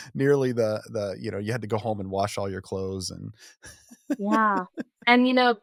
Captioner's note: laughs